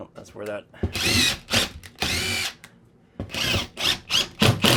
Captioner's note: drill whirring